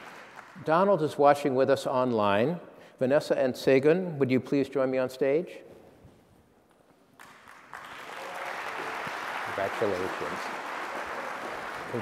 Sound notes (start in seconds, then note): 7.1 applause